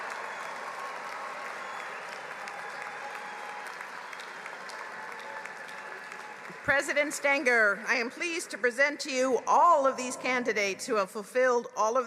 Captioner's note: applause